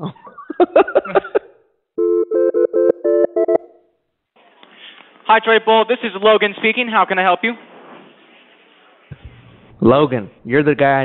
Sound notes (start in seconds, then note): 0.0 laughing; 2.0 phone ringing